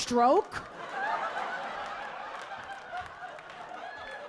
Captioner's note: audience laughing